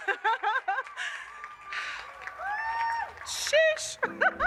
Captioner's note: chuckles; audience cheers; chuckles